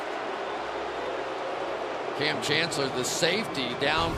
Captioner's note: booing